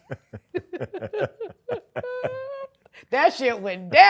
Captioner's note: laughter